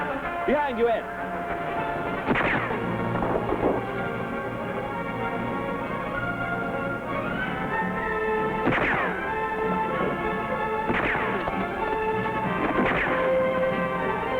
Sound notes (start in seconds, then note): 1.4 gun fires; 4.0 thrilling music; 8.0 guns firing